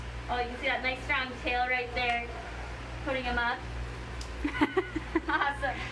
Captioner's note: laughs